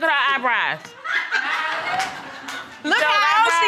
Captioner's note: audience laughing